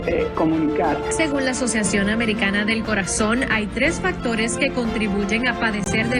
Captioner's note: speaking in foreign language